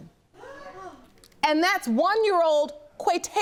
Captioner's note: audience gasps